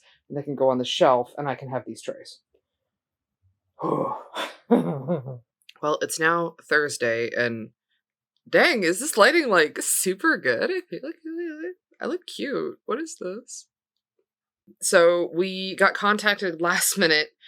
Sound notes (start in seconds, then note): 4.7 distresed laughter